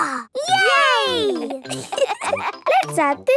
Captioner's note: laughter